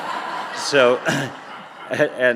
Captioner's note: audience laughing